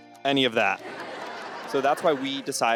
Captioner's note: audience laughs